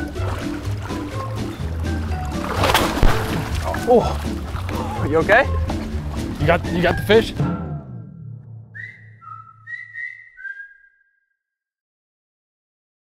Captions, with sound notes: (fish flapping) - Oh, are you okay? - You got the fish?